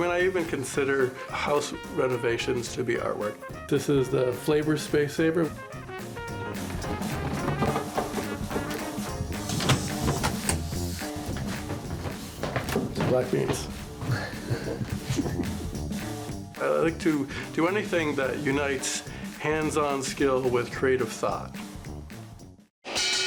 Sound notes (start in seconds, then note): 5.9 uptempo music continues; 9.7 ladder clicking; 15.5 laughs